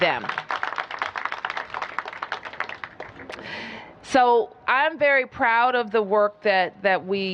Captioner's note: applause